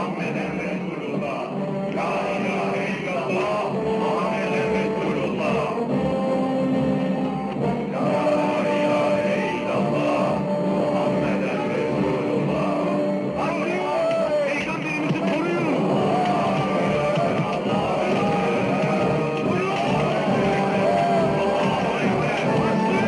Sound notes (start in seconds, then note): 16.1 dramatic music; 16.1 indistinct chattering, shouting